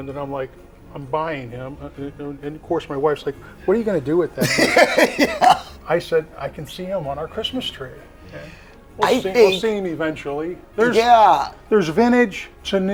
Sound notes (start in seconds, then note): 4.4 laughing